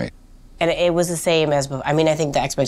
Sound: none

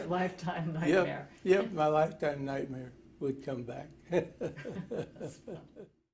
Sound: chuckle

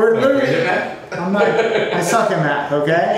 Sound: laughing

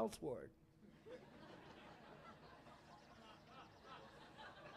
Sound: laughter

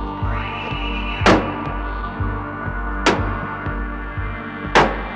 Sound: door thudding

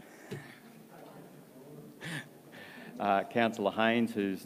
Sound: laughs

